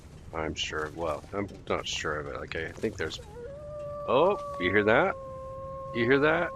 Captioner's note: wolf howls from back inside the cave